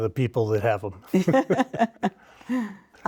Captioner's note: laughing